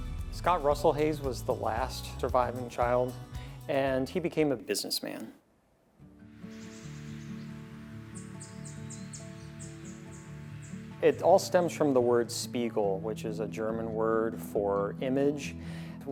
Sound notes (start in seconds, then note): 6.0 mellow orchestral music; 6.4 birds chirping